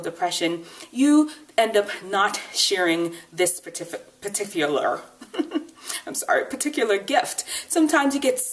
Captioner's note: laughs